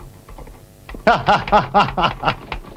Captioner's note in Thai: หัวเราะ